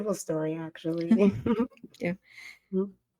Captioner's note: giggling